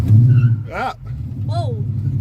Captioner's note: tires screech